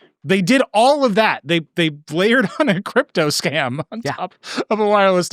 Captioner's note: laughing